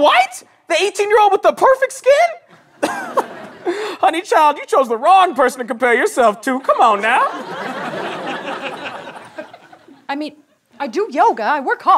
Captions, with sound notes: - Snow White? The 18-year-old with the perfect skin? [laughs] Honey child, you chose the wrong person to compare yourself to. Come on, now! - I mean, I do yoga.